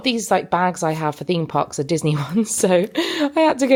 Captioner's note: chuckling